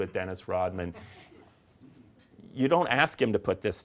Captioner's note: audience giggling